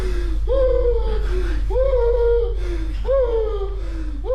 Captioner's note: Keith gasping